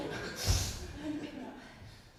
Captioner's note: breathes deeply